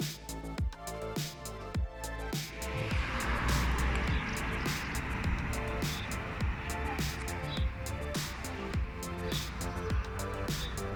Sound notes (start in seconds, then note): 2.6 traffic